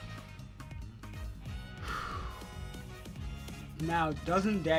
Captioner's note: sigh